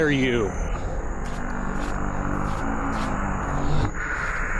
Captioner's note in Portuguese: Ofegante, NOAH avança